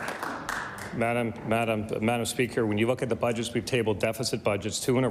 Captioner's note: applause